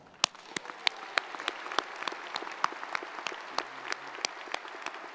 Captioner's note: audience applauds